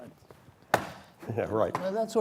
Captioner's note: stomps on floor